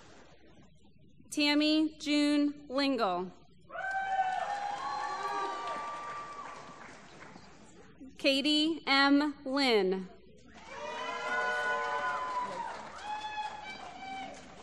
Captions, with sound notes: Tammy June Lingle. [ Applause ] Katie M. Linn. [ Applause ]